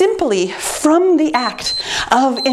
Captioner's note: timer beeps